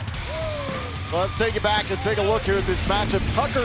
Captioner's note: crowd cheering